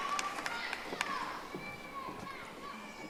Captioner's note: audience applauding